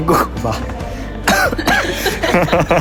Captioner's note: cough